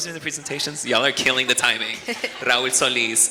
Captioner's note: chuckles